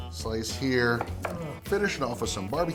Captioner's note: slicing; slicing